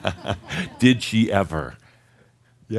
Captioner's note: chuckles